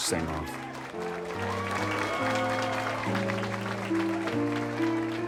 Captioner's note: audience cheers